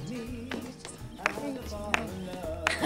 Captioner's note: clapping